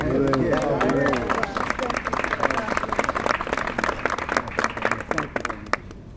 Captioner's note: applause